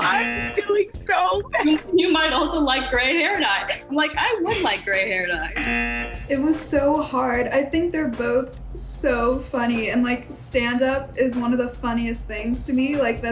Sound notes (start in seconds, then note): 5.6 buzzer